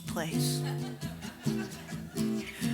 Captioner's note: audience laughs